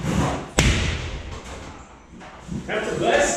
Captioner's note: hammer thuds